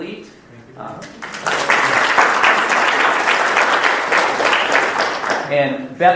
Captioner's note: audience applauding